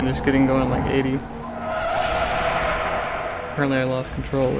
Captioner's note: tires squealing